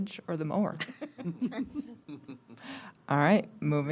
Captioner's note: board Members laughing